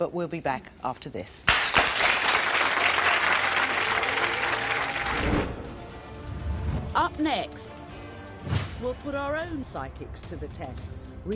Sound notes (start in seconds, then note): 1.5 audience applauding; 4.4 intense soft music